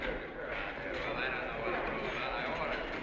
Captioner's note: chattering Continues